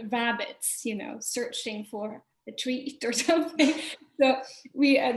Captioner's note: laughing